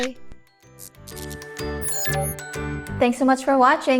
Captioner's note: blip